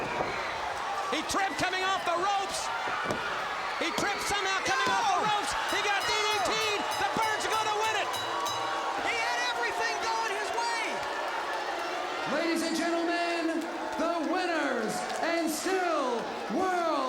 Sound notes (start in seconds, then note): 8.4 bell ringing; 11.5 crowd cheering